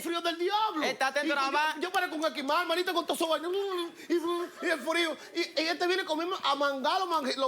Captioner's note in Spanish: Exclamaciones